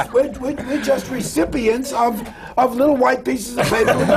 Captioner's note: laughter